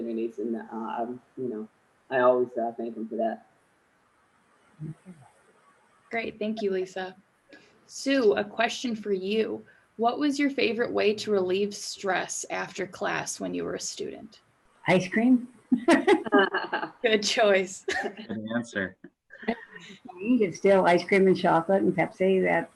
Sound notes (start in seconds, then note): 15.9 laughing loudly